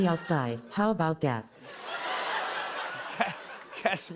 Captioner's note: laughter